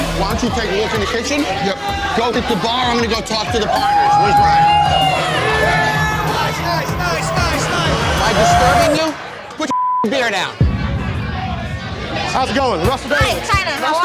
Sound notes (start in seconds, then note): 5.0 cheering; 10.6 dramatic percussion